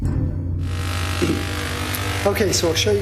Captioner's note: loud zapping